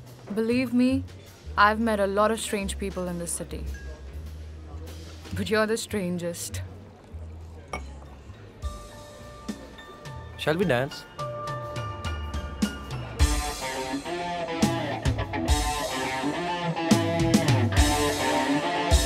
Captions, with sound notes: Believe me, I've met a lot of strange people in this city, but you are the strangest. (Glass clink) - (Soft music) Shall we dance? (Dance music)